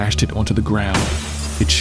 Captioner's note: smashing noise